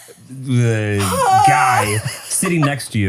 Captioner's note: gasps